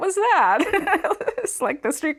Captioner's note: laughing